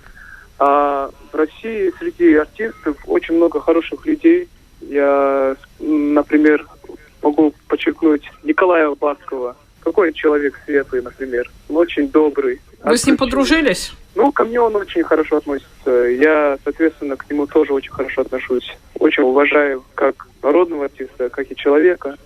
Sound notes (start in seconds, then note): 10.4 cheerful